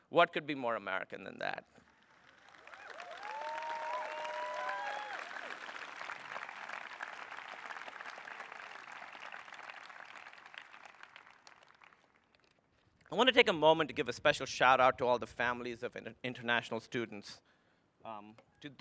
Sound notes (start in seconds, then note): 3.0 applause